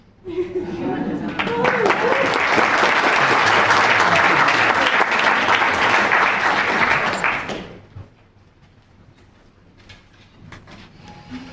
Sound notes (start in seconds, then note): 1.2 audience applauds